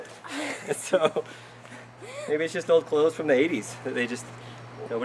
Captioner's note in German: Lachen